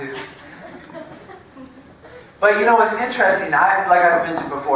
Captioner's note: laugh